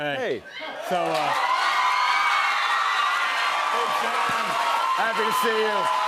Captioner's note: cheers and applause